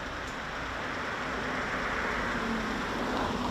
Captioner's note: traffic noise